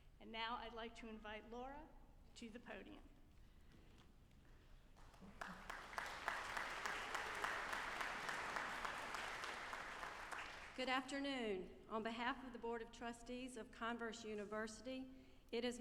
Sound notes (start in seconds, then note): 5.0 audience applauding